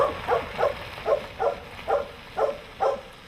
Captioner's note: dog barks